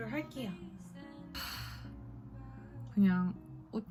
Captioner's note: sigh